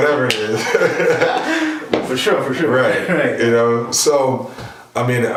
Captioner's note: laughing